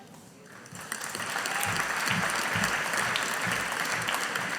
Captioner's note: audience applauding